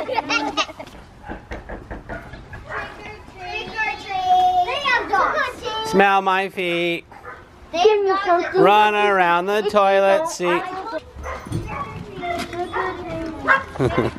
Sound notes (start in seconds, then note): 0.0 children laugh; 1.2 knock on door